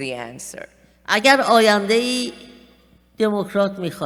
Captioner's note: speaking persian